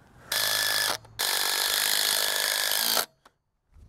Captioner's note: drill roaring